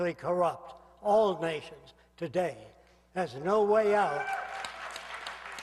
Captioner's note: aplausos